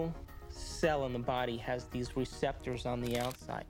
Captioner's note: shutter Clicking